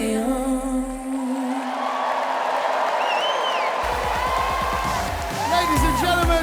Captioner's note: audience applauding and cheering